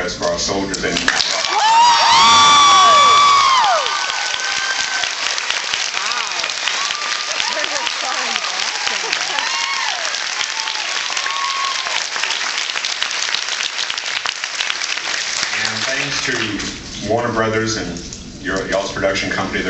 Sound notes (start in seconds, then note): 1.9 screams and cheers; 3.3 cheers